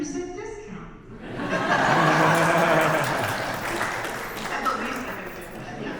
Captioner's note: audience laughs and applauds